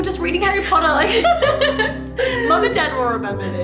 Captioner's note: laughing